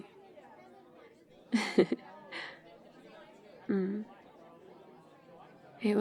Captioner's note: laughs